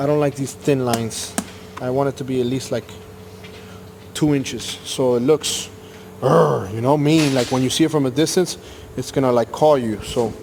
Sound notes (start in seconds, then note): 6.2 growls